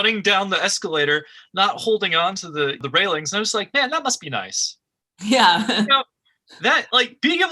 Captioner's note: laughs